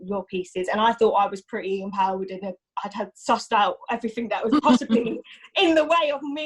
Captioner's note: laughs